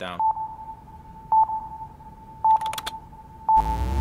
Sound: beeping

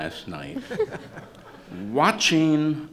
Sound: laughter

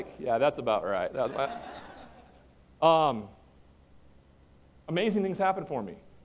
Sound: laughter

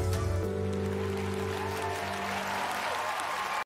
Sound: audience cheering

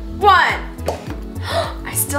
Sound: gasps

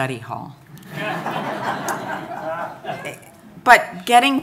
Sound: audience laughing

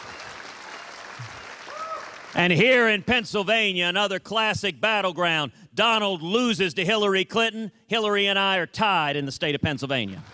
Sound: applause

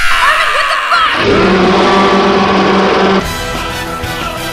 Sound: Titan Eren roars in pain; outro Music

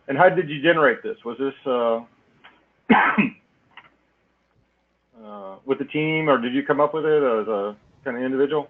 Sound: cough

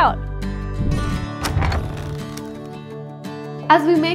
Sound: upbeat music; door clicks open

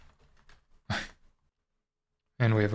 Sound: chuckles

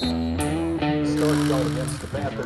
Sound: whistle blows

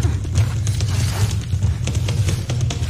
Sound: rope swooshing

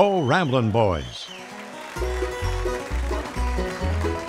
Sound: audience cheers; upbeat bluegrass music

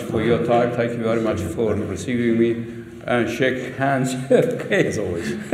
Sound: laughter

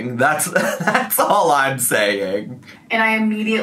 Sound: laughing

